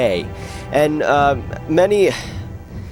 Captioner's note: sighs